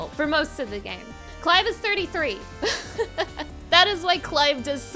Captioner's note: laughing